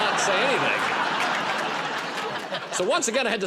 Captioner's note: laughter